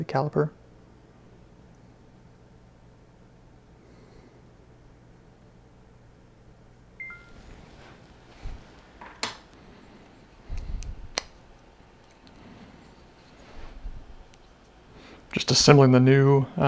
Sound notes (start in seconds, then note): 3.9 camera off ding